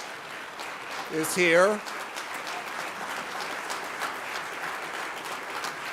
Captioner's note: applause